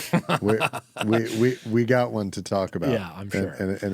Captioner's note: laughing